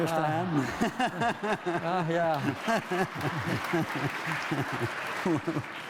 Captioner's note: applause